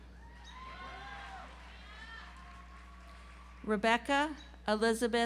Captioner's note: audience applauds